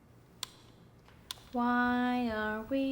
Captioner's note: remote clicking